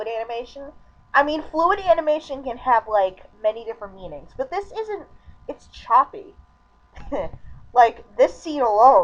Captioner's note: chuckle